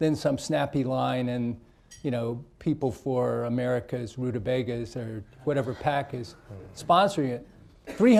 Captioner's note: laughter